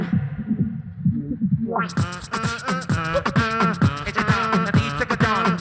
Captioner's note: beatboxer performs